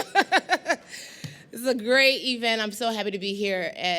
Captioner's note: laughter